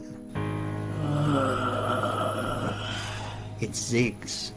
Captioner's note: Ziggs grunting